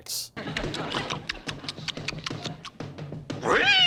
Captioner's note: chewing